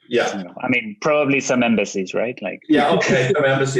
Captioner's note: laughing